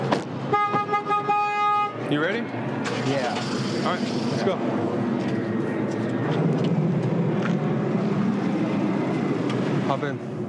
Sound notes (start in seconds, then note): 0.5 horn honking; 2.8 car engine starting